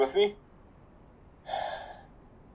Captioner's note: sighs